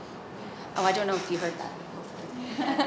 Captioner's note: laughs